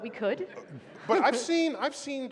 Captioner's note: laughter